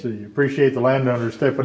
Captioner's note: laughs